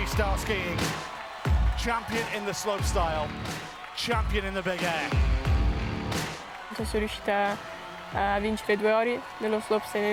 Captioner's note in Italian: Applauso